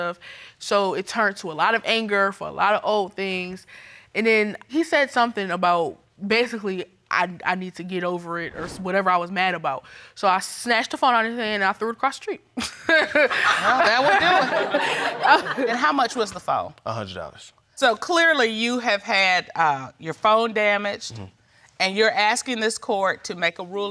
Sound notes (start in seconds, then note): 13.1 laughs; 13.2 audience laughs